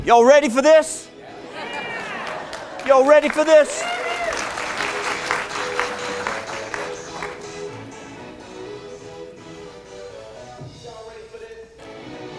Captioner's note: light applause; more applause and music